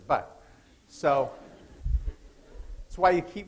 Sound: laughter

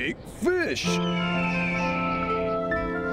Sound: eagle calls

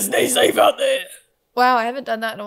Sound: in raspy voice

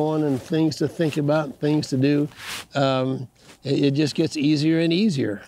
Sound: none

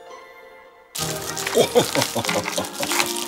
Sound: laughing

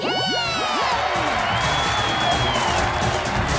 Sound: cheering

